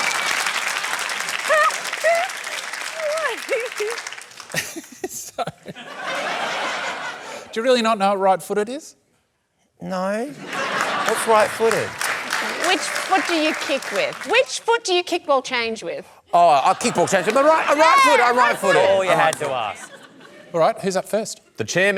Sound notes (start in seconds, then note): 0.2 laughter, applause; 1.4 laughs; 6.1 laughter